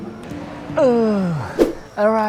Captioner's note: grunts